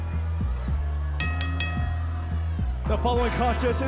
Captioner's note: bell ringing